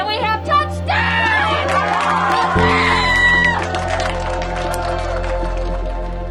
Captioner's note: cheering